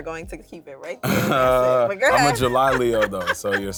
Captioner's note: laughs